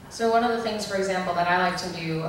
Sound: voiceover

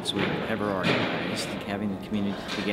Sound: equipment thumping

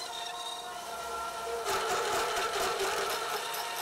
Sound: creaking

